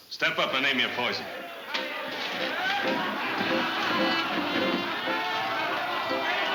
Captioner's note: crowd chattering; lively fiddle music